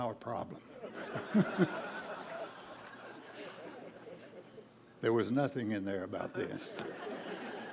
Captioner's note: laughter